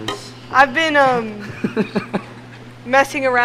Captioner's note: chuckling